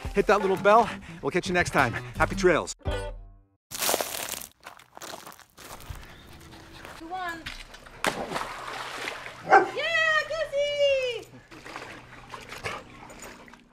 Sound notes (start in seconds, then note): 3.7 leaves crunching; 8.0 water plopping; 9.4 dog barks